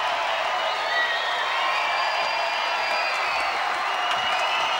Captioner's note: audience cheering